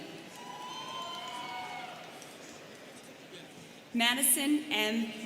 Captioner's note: students cheering